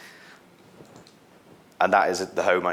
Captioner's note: mouse clicking